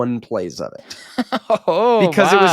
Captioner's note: laughing